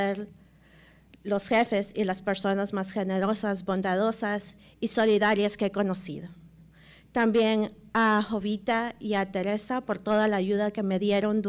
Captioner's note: speaking Spanish